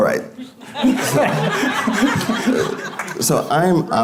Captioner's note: audience laughing